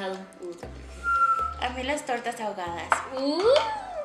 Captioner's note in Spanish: chiflando